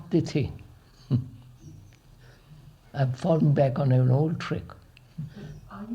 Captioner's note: laughs